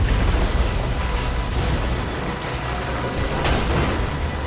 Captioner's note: metal crashing